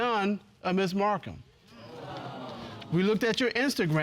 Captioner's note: audience exclaiming